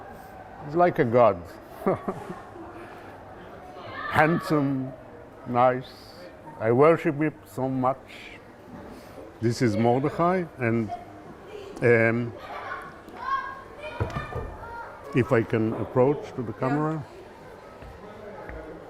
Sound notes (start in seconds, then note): 1.7 laughing